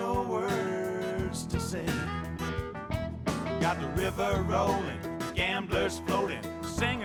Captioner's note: sea gulls squawking